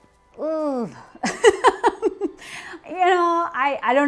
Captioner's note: makes a strained noise, then laughs